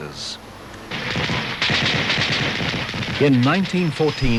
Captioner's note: sound of gunfire